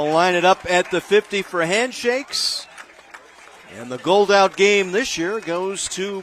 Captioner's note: applause